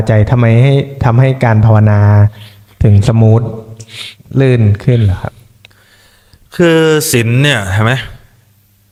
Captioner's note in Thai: เสียงสูดหายใจ